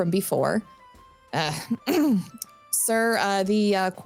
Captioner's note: clears throat